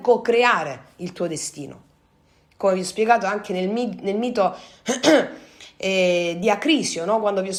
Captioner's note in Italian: schiarire la voce